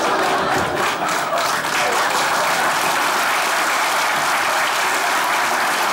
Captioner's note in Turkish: Alkış sesleri